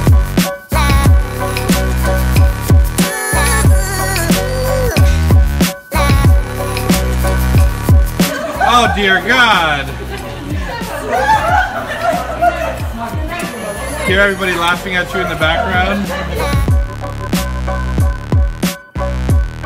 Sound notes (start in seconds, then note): 7.7 giggling in background; 10.6 giggles continue